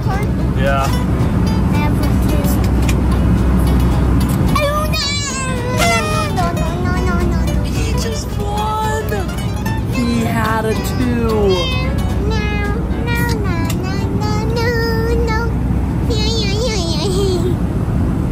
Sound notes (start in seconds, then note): 12.3 humming